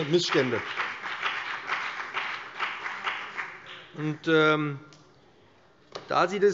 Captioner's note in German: Beifall BÜNDNIS 90/DIE GRÜNEN und vereinzelt CDU